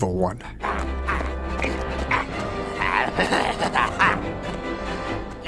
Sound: evil Laughter/Grunting

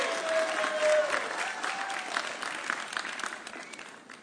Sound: audience cheering

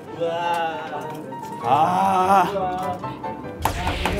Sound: tap tap tap

